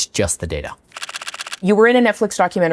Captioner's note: camera shutter clicks